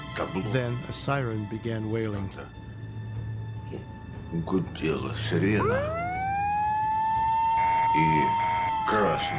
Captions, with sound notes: Then a siren began wailing. (siren blares)